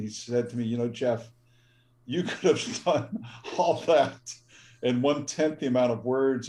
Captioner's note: laugh